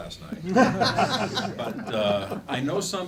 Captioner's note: laughing